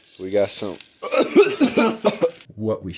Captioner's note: dies coughing